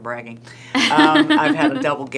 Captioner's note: laughing